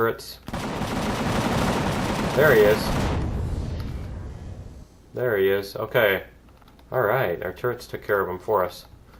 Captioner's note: explosion